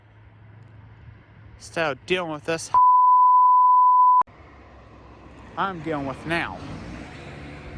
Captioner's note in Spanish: bip; pitido